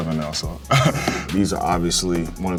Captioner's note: chuckles